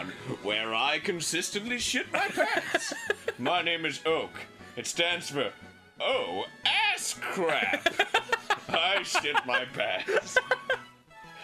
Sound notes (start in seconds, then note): 7.2 Danny continues laughing; 7.2 Danny laughs